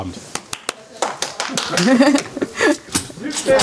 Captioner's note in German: Sie kichert